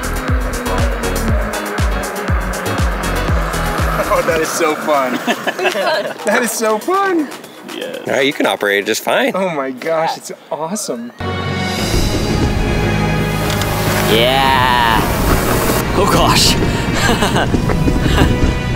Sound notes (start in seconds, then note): 0.0 motor whirring; 0.1 upbeat music; 5.5 all laugh; 11.2 majestic music; 16.8 laughs; 18.5 majestic music